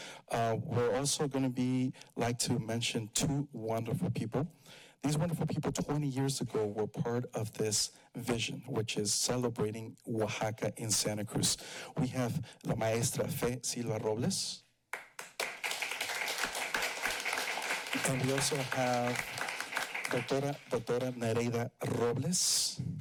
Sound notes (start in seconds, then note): 14.9 applause